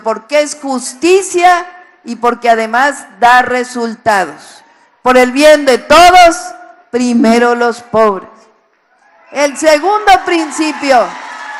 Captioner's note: applause